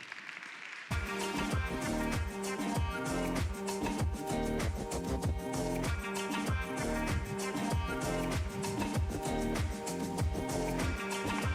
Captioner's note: applause